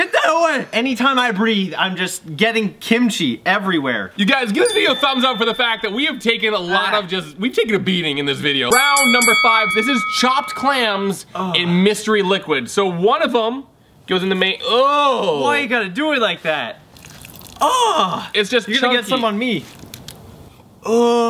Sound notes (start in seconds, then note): 8.7 bell dinging